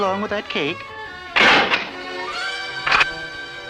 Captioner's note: door Closes & then locks